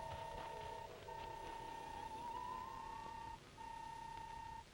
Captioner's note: robot beeping